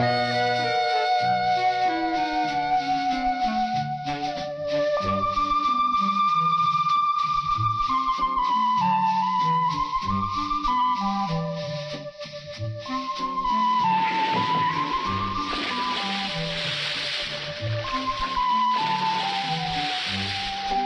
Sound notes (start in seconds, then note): 2.5 light playful music continues; 15.1 water splashes; 20.6 light playful music continues